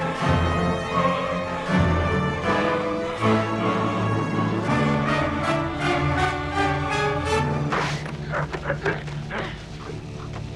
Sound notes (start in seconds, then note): 7.6 sword slices; 7.7 both grunting; 10.3 Beast panting